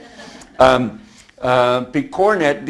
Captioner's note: audience chuckles